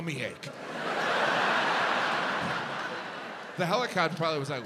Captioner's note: audience laughs